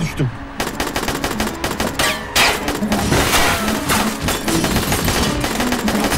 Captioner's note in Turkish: Silah sesleri